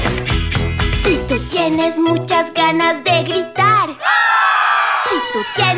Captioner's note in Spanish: Grito